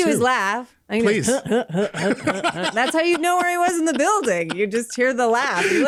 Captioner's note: Seth Rogan laugh imitation